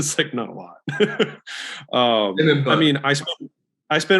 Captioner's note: Alex laughs